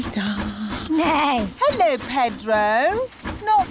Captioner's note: neighs